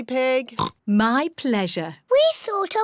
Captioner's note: oinks